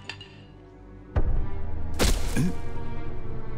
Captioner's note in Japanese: グサッ